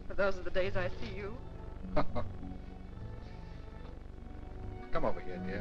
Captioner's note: Dick chuckling